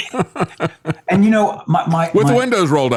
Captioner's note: laughing